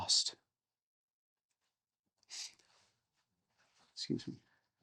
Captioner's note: silence